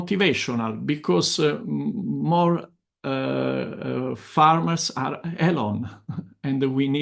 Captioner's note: laughs